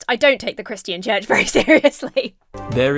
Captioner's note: laughs